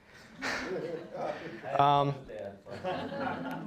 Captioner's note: all laughing